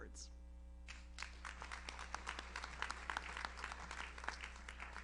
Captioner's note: audience applauds